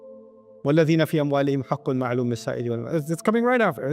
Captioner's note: Arabic